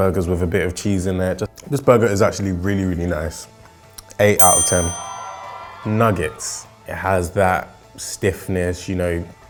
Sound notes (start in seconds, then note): 4.4 bell ringing; 5.2 cheering